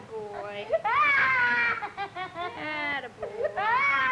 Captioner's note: crying